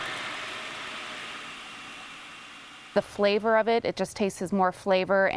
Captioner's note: blender whirring